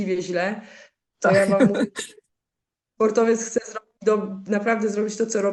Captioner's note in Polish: śmiech